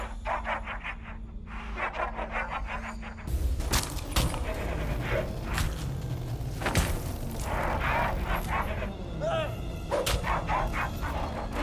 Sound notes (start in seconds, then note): 3.3 bones cracking